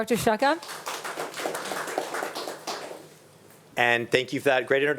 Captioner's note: attendees applauding